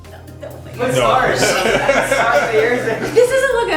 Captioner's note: laughter